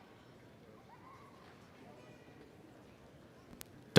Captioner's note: none